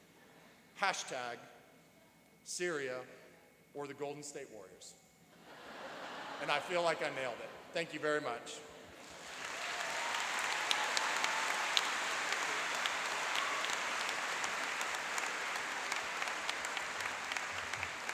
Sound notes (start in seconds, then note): 5.6 laughing; 9.0 applauding and cheering